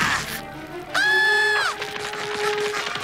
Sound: grunting; screaming

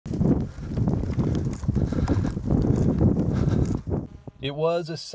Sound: wind blowing

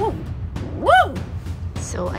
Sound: woof

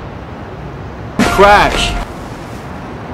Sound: crash

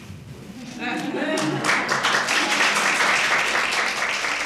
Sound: audience applauding

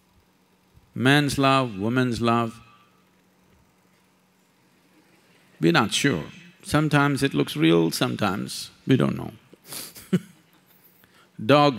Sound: laughs

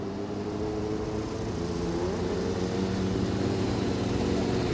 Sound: engines revving

